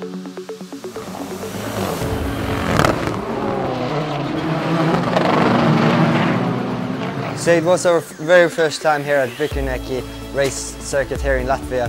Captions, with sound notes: (car engines) So it was our very first time here at race circuit here in Latvia